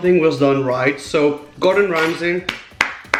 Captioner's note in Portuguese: aplausos